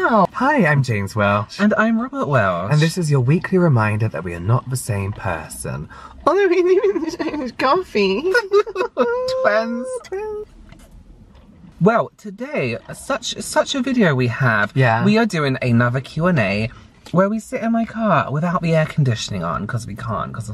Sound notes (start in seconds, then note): 8.3 fake Laugh